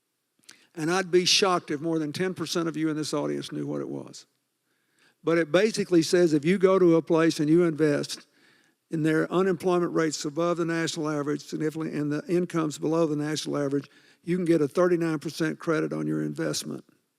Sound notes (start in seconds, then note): none